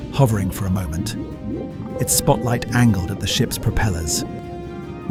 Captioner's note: underwater sounds, bubbles escaping, single beep